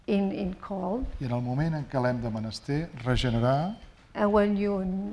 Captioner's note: speaking spanish